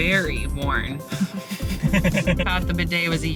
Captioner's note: laughing